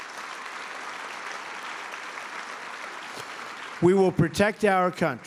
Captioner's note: applause